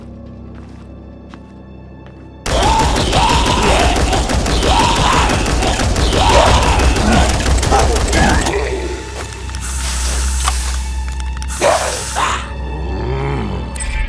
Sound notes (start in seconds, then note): 0.0 unsettling music; 2.4 shooting sounds; 3.0 uaght-guehh-ughhh; 9.5 gun extinguish sounds